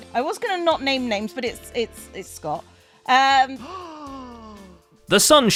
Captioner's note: gasps